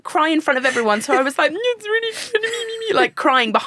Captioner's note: sobbing